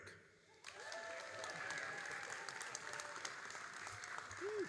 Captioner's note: all applauding